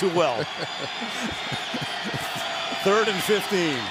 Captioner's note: laughing